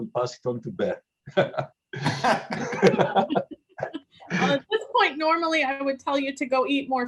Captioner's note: laugh